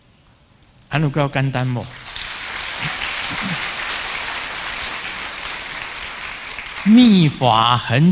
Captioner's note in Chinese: 眾鼓掌